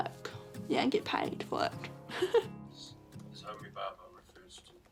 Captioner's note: giggles